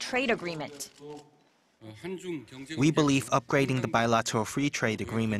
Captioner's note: Korean